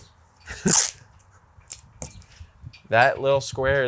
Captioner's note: chuckles